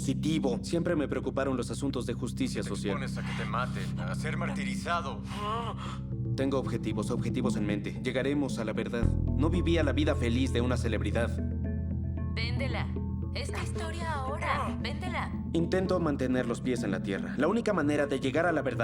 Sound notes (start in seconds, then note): 2.6 voiceover; 11.7 voiceover